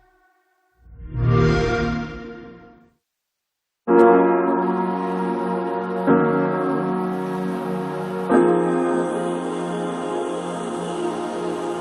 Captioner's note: Xbox sound